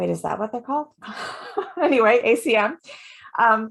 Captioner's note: laughs